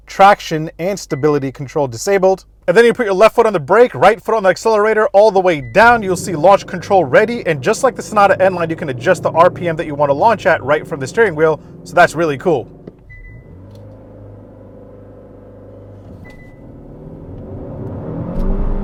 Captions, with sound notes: traction and stability control disabled. And then you put your left foot on the brake, right from the accelerator all the way down. You'll see launch control ready. And just like the Sonata N-Line, you can adjust the RPM that you want to launch at right from the steering wheel. So that's really cool. (car beeping) (engine roaring)